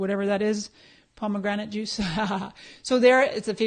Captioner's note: laughs